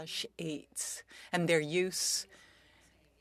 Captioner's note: speaking French